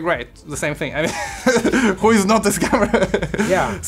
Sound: laughing

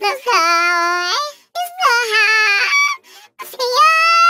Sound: crying continues

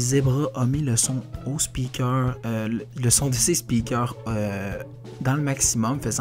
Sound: none

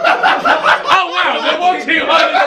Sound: laughing

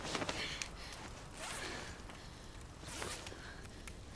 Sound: closing tent zip

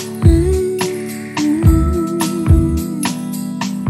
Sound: woman humming

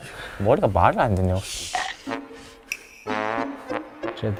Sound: nibbling

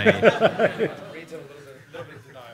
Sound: laughter

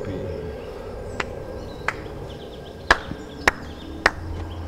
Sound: creator clapping

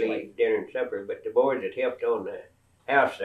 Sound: laughs

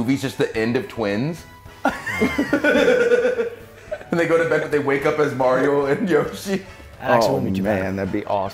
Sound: laugh

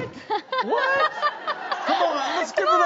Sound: woman laughs

